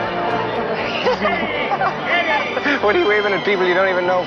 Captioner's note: Frances laughing